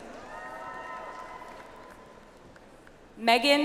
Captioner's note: audience applauds